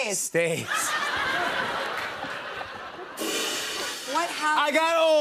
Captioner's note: laughter